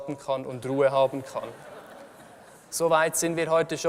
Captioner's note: laughter from the audience